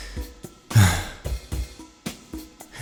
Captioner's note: sigh